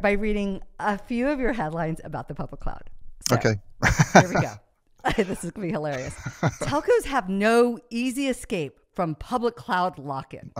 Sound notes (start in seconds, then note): 3.8 laughs